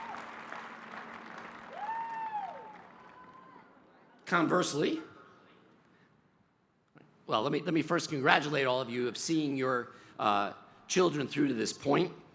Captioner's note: cheers and applause